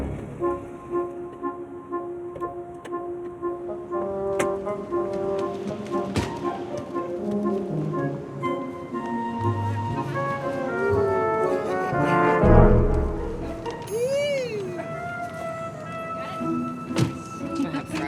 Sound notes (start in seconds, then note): 2.5 car doors clicking; 6.3 car door bangs; 13.8 laughs; 17.1 car door bangs